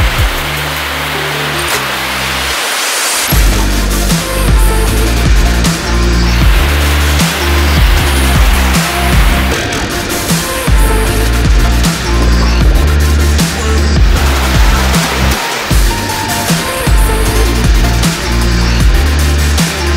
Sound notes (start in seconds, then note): 3.8 board scraping against ground; 14.3 pumped up music continues